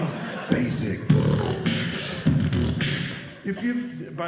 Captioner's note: beat boxing